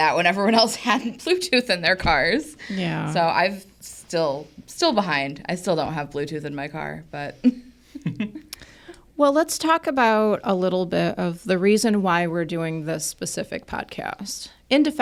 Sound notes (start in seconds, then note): 1.3 laughs; 7.9 co-hosts laughing